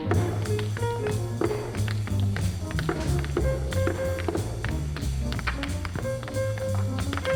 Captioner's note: shoes tapping; upbeat jazz music